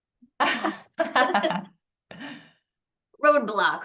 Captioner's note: laughing